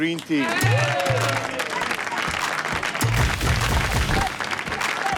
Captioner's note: green team cheers